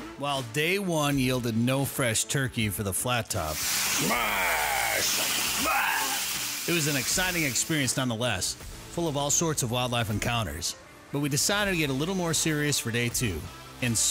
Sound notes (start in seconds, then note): 3.5 meat sizzling